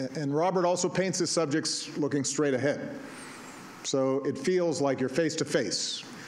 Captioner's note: none